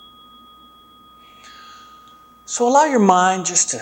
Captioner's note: chime sounds